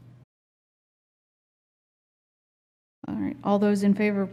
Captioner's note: silence